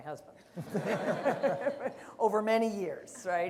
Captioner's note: laughter